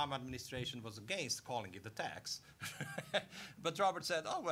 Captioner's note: laughing